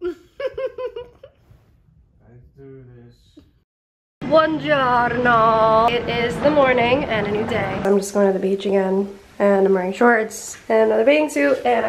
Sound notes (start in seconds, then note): 0.0 laughing; 4.2 speaking in foreign language